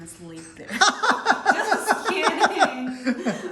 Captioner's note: laughing